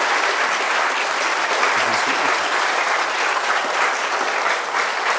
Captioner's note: applause